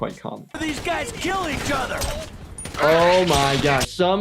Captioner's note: gun fires